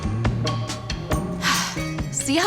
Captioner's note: exhales